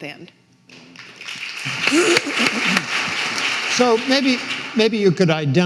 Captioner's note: audience applauding